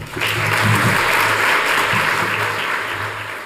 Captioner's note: applause